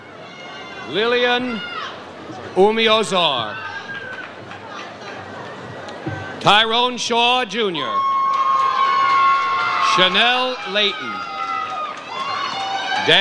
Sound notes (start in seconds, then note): 7.7 audience cheers